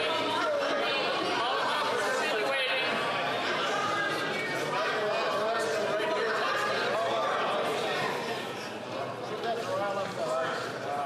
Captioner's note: chatter